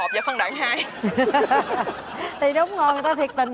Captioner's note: laughs